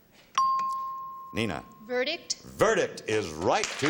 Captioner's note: chimes